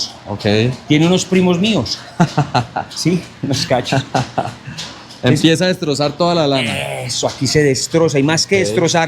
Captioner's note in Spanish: risas